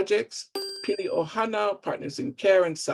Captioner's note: bell chiming